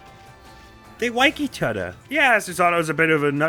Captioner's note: uWu voice